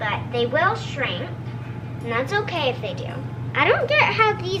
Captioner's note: none